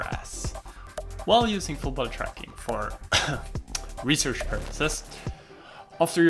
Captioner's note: cough